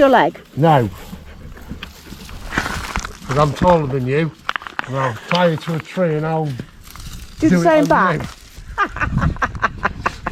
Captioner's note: laughter